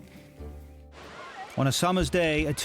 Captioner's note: people chattering; water splashes